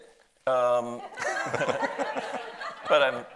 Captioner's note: audience laughs